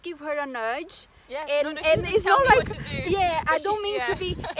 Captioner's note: risos